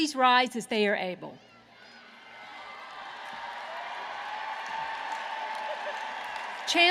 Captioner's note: applause